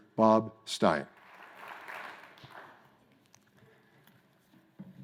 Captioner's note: crowd applauds